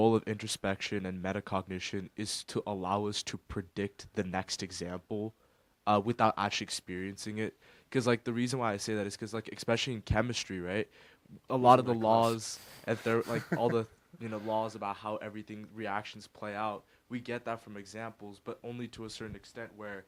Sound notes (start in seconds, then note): 12.8 laughs